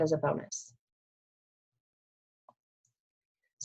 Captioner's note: pause